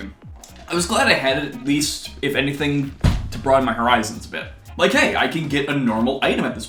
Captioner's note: thud